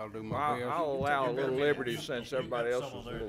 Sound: some laughing

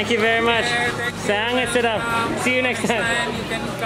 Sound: speaks in foreign language

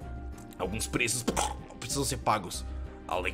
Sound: coughs

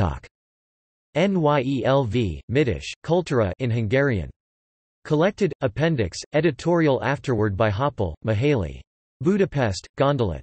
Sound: in Hungarian

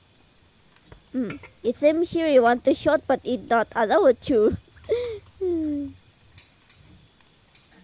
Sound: laughs

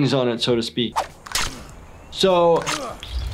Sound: ripping

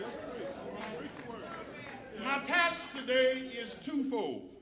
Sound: applause

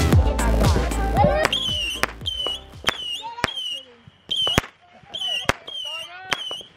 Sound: fireworks screeching and popping

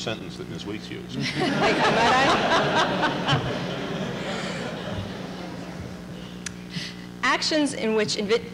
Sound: laughter

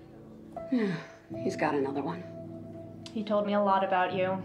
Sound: sighs

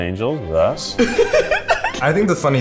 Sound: giggling

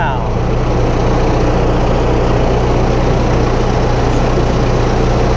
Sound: train clattering

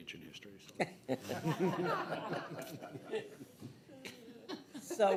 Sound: everyone laughing

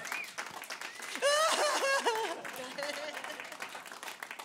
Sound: applause; fake Crying; applause

